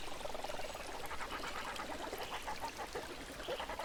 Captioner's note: water trickling